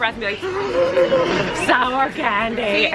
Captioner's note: gasping